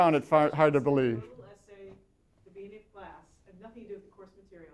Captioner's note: voiceover